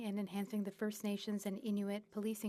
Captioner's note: speaking French